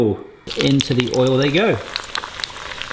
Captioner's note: oil sizzling